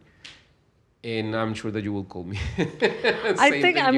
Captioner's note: laughs